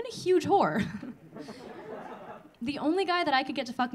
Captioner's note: audience laughing